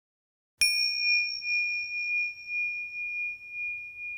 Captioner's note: bell chiming